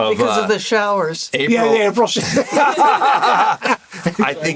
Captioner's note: laughter